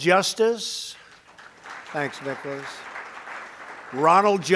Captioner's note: applause